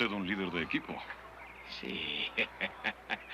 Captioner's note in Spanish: riendo